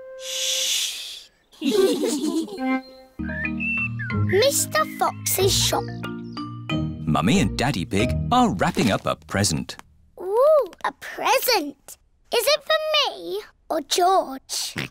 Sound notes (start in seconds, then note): 1.6 all giggle quietly; 1.6 all laugh; 14.1 oinks